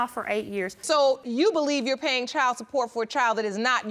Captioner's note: none